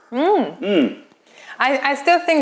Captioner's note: sips tea